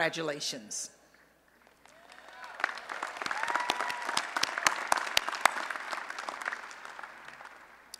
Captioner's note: applause and Cheering